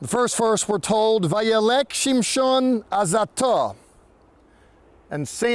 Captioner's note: speaking in Hebrew